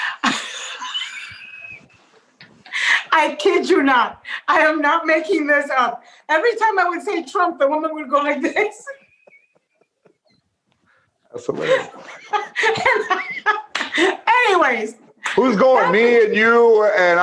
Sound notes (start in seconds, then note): 3.2 laughter